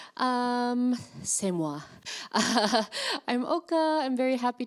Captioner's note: speaking in foreign language